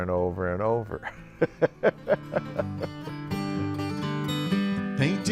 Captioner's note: laughs